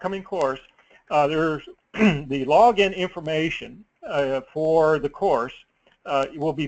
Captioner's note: cough